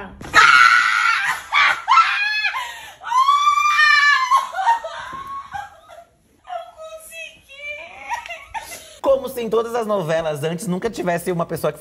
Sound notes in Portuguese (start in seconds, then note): 0.3 gritos; 7.9 choro